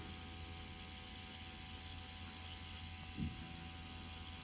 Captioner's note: machine whirring